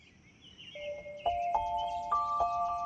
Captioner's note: birds chirping